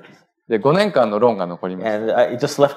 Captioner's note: speaking japanese